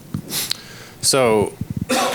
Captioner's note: sniffles